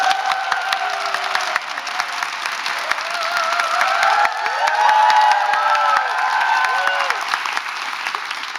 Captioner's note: applause and cheers